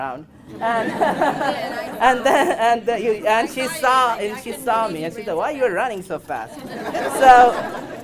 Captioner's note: audience laughs